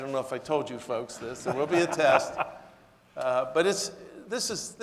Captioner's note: panelist laughing